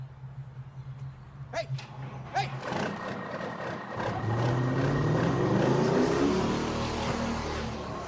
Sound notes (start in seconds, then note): 1.6 rv engine revs